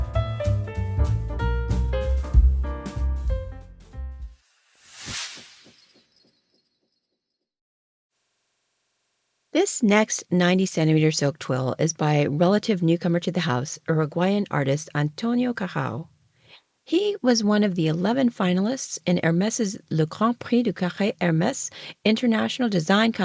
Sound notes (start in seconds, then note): 0.0 background music; 6.5 sound effect